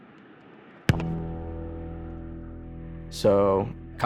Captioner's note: ball thuds; tense piano note